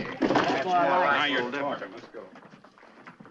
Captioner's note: boys grumbling